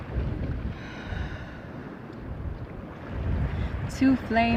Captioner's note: sounds of soft ocean ripples; exhales audibly